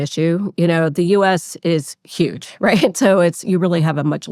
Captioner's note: laughs